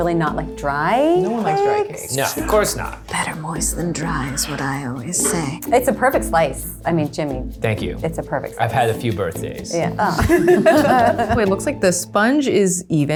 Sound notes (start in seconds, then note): 10.0 laughter